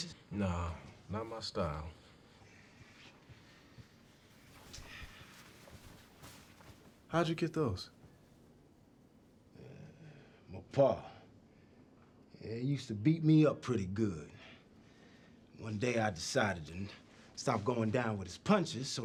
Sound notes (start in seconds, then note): none